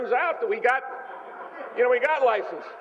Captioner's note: laughter